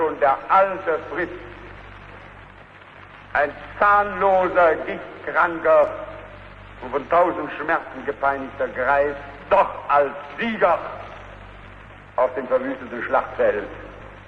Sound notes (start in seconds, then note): none